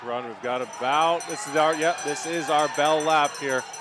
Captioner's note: bell rings